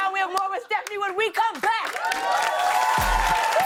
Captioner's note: cheers and applause